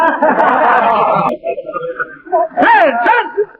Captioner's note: men laughing